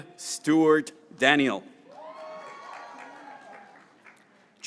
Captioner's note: graduates cheering